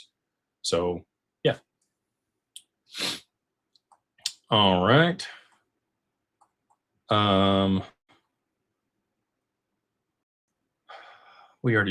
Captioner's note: snorts